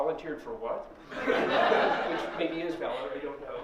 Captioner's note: laughter